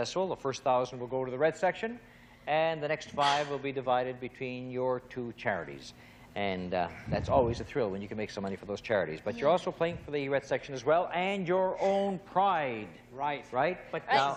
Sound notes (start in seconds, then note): none